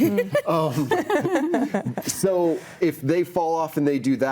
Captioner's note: panelist laughing